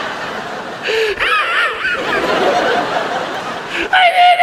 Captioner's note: audience laughs; laughs